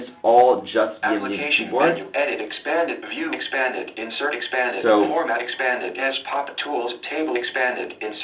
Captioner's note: computer speaking